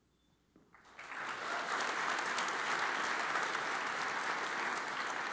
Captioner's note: audience applauds